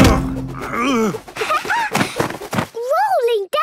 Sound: laughing

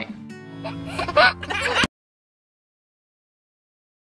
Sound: baby laughing

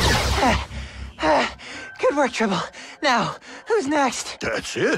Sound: pant

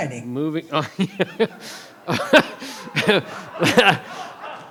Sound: all laugh

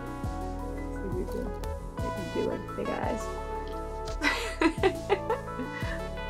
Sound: laughter

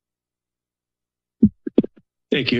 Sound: mic thuds

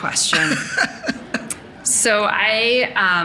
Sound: laughing

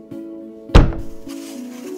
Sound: bonk #2

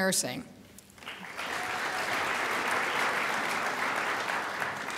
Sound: crowd applauds

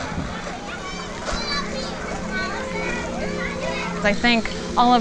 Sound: children playing

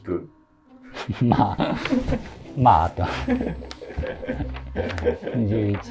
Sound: laughing

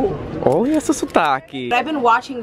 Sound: speaking in foreign language

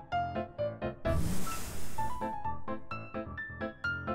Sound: blowing sound

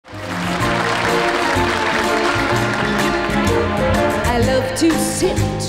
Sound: audience applauding; stirring symphonic music

